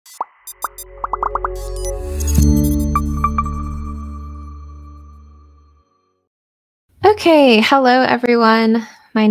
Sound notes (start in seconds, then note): 0.1 gentle electronic music; 1.0 bubbles popping